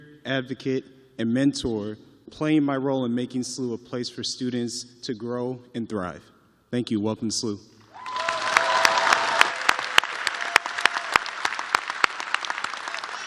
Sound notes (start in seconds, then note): 4.0 cheers and applause